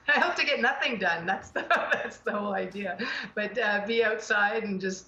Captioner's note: laughing